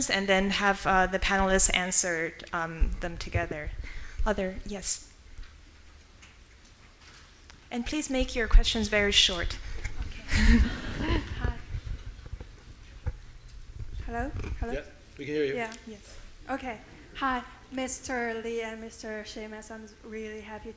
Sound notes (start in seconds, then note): 10.1 chuckles; 10.2 audience laughing